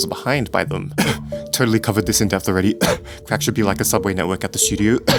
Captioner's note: cough; cough